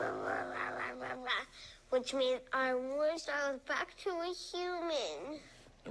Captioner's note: growling